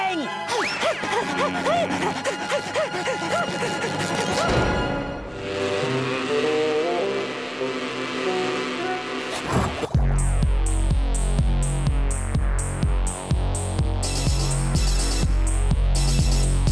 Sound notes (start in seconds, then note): 0.7 panting; 5.2 buzzing